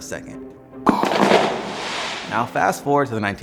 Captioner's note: fireworks explode; imitates explosion